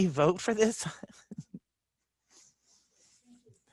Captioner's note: chuckles